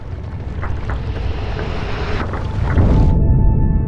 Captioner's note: exploding